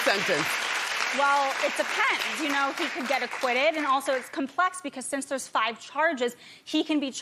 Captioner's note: applause